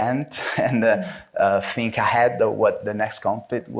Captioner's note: chuckles